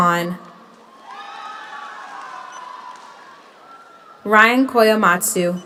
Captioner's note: audience cheers; audience applauds